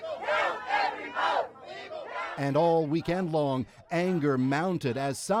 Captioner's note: chanting